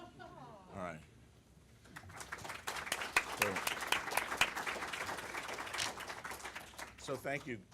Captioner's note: applause